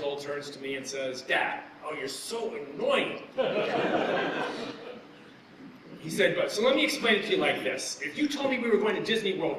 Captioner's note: laughter